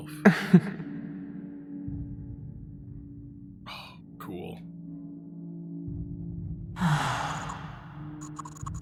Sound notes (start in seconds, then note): 0.2 the Duchess laughs; 6.8 the Duchess sighs